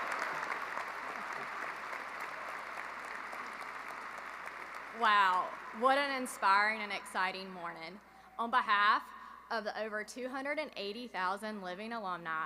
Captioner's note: applause